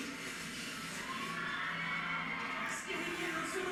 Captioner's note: crowd cheers